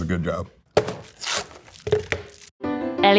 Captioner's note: box ripping; box clanging; cheerful music